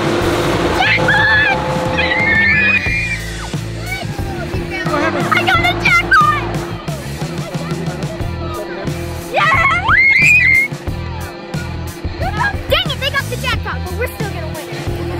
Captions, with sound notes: Jackpot! Ahhhh! I got the jackpot! [Excited shouting] Dang it! They got the jackpot, but we're still gonna win.